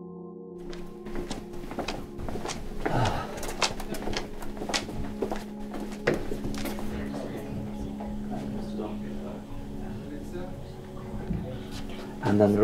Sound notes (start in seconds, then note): 2.8 sighs